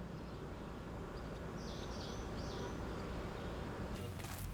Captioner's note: birds chirping